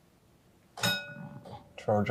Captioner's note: bell ringing